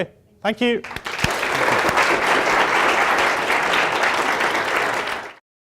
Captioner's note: applause